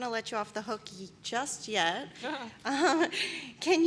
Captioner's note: laughter